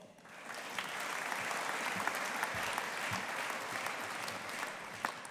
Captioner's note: audience applauding